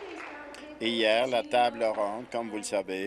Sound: applause

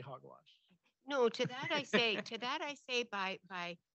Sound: laughs

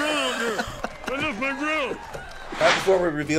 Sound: both laugh

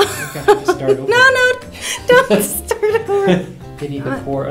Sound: both laugh

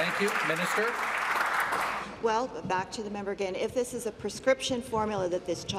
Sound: applause

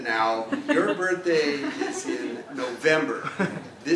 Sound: laugh

